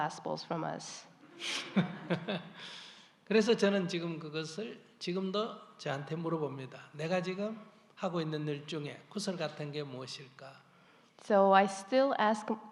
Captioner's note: laughter